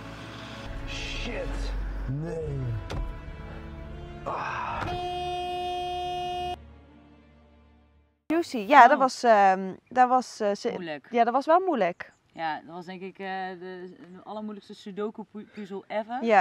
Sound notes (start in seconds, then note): 4.8 Horn of the Jucy camper